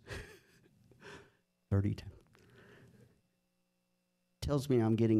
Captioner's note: laughs